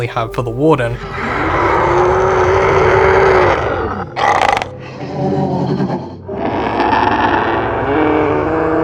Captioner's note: sound effect